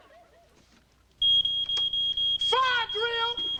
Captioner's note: fire alarm beeping